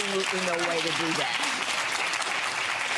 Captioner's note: audience clapping